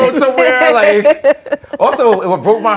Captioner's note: laughter